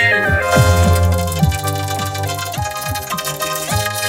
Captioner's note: wheel dinging